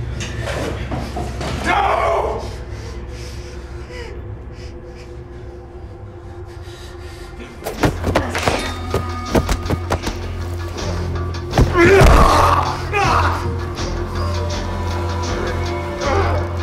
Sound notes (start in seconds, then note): 2.3 tense music; 7.7 knife clatters; 9.2 Ben and Tyler rustling; 9.2 dramatic music; 11.7 Ben yells; 13.8 dramatic music